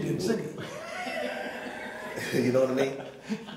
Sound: laughing

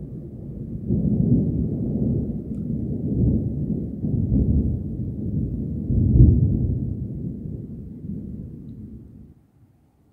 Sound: deep distant thunder

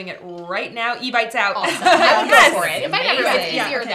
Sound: laughter

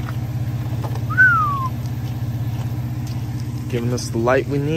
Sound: whistling

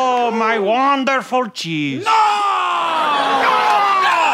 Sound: yelling; applause

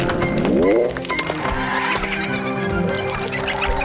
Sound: chirping

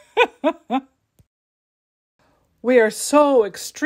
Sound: laugh

